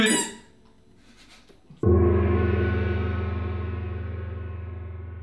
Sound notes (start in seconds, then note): 0.0 squeak!; 1.0 laughs; 1.8 gong